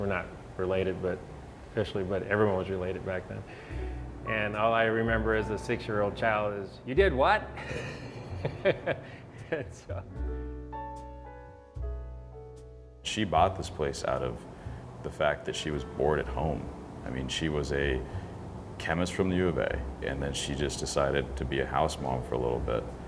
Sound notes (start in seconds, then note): 7.6 laughs